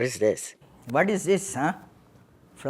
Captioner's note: soundbite of archived recording